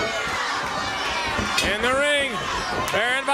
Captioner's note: crowd cheering